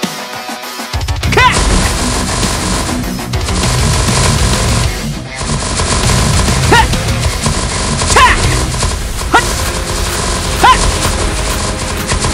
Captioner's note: lightning Bolts